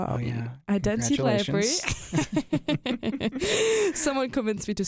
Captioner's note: both chuckle